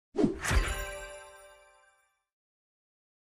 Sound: chimes ringing; air whooshing; chimes ringing

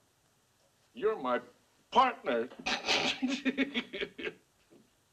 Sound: laughs

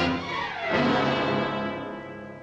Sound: siren wailing

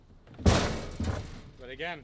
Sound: metal clanking

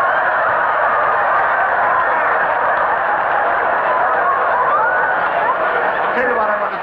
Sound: audience laughing

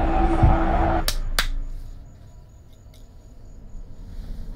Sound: Andrew claps

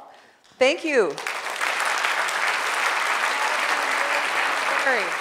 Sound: audience applause

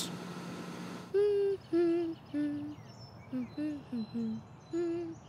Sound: humming

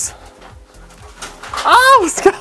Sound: crashing sound

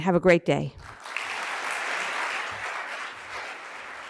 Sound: applause

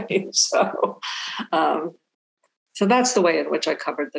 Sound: laughing

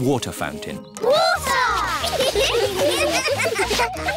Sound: laughter

